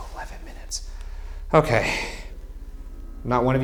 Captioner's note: sighs